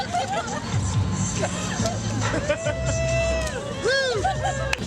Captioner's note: onlookers laugh and cheer